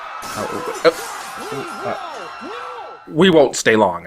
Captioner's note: people screaming; glass breaking